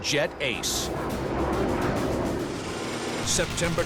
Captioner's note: engines blaring